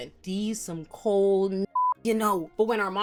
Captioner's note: beep